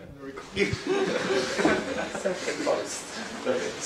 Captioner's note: indistinct conversation